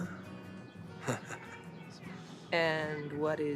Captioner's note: Radovan chuckles